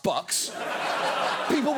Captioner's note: audience laughs